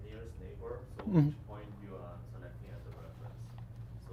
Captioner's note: faintly speaking